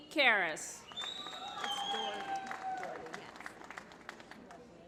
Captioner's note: applause